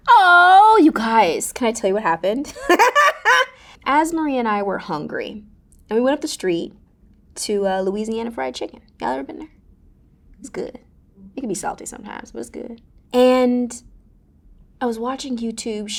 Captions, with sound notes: Oh you guys, can I tell you what happened? [laughing] AzMarie and I were hungry and we went up the street to Louisiana Fried Chicken, got up in there, it was good. It can be salty sometimes but it was good. And I was watching YouTube.